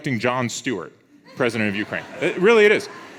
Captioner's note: audience laughs